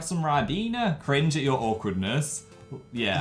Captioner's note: normal voice returns